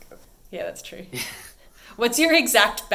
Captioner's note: chuckles